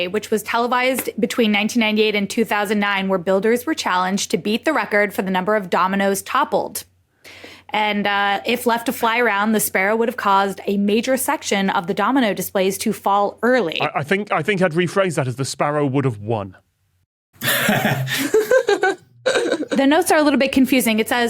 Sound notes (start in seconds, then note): 17.4 chuckles; 17.4 giggles